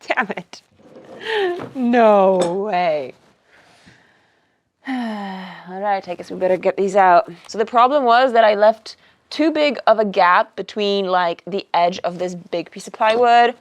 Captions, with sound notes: Damn it. (chuckles) No way. (sighs) I guess we better get these out. So the problem was that I left too big of a gap between like the edge of this big piece of plywood